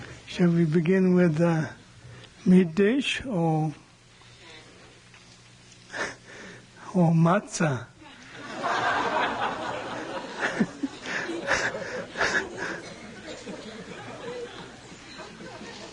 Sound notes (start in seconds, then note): 8.1 laughs, laughter